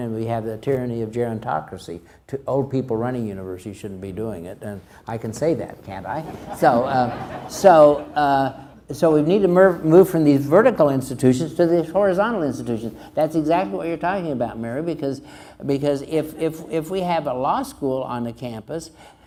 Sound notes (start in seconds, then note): 6.1 crowd laughs